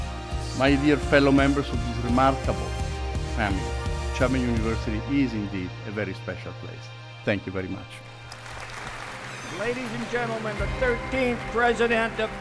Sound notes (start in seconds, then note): 8.2 applause